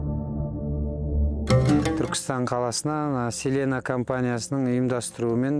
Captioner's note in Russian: на казахском